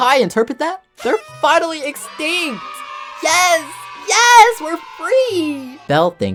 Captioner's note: cheering Sounds